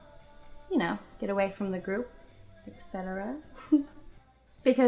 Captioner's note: giggles